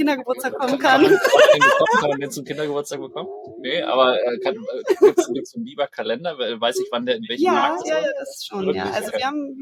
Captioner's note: laugh